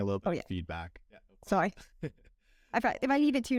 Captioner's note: laughter